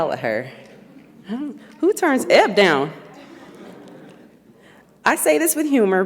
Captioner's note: audience laughs